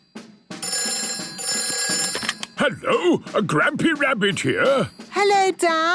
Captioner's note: phone ringing